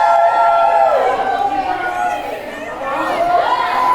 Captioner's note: crowd cheering